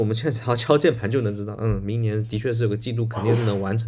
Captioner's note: nonverbal grunt as interjection